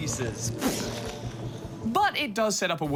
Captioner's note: imitates explosion